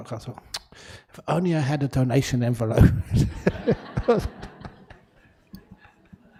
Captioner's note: laugh